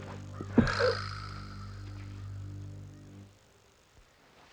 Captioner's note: Huck gasps